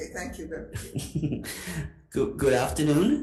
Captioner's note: chuckling